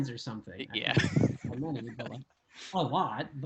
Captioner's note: laughing